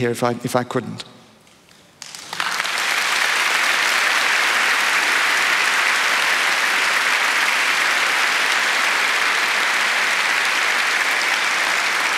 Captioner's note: applause